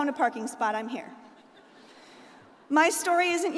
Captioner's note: crowd laughing